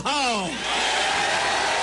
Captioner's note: applause